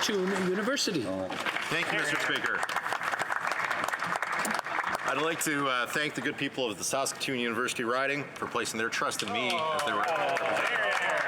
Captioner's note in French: voix de l'interprète